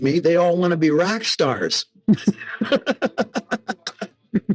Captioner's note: laughing